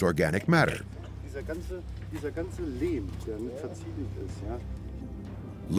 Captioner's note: speaking German